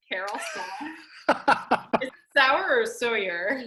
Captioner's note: laughs